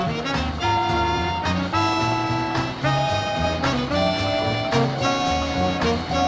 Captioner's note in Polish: Aplauz